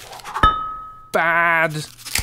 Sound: thunk

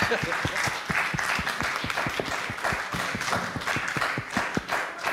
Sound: applause

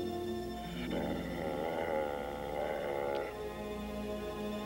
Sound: Shep growling

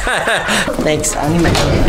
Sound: laughing

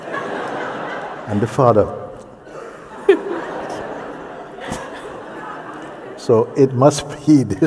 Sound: laughter

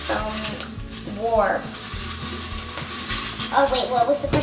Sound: rustling

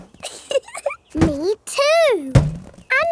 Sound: chuckles

